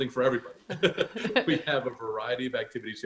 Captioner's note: laughs